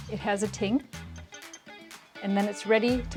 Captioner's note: pottery tinging